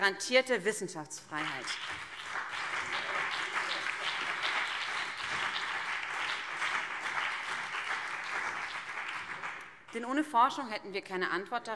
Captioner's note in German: Beifall BÜNDNIS 90/DIE GRÜNEN und CDU